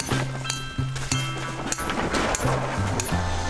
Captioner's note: metal clanging